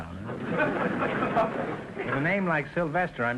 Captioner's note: audience laughter